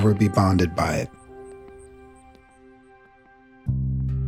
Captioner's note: birds chirping; insects buzzing; gentle music